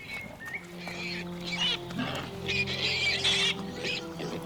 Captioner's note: boar squealing